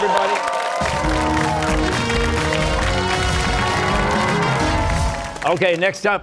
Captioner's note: cheers and applause